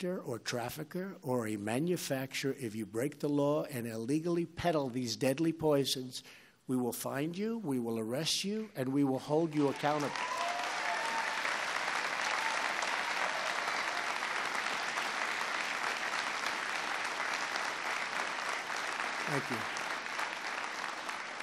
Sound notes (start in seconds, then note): 9.4 applause